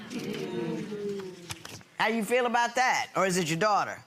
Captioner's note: audience hums in agreement